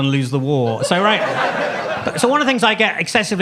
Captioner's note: audience laughs